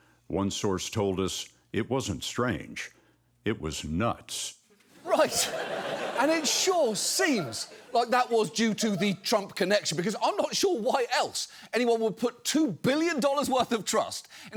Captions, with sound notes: One source told us it wasn't strange, it was nuts. -Right. -(AUDIENCE LAUGHS) And it sure seems like that was due to the Trump connection, because I'm not sure why else anyone would put two billion dollars worth of trust